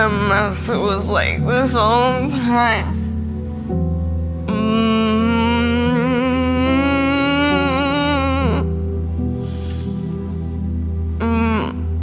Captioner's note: Selma lets out a defeated groan